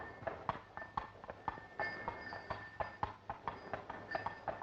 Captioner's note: bells ringing